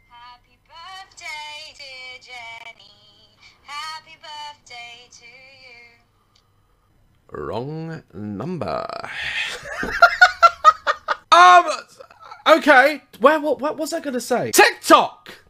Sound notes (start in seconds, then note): 9.4 laughter